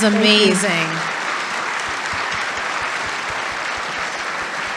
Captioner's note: audience applauding